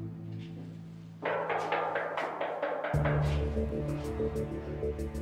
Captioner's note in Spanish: Toques en la puerta